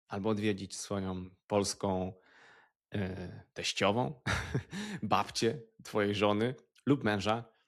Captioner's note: laughter